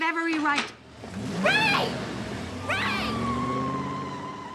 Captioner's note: engine revving